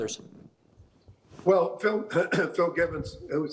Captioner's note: clearing throat